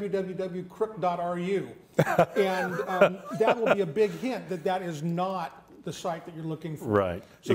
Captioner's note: laughter